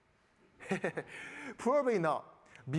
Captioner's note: all laughing